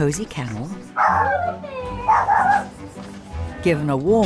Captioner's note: dog barking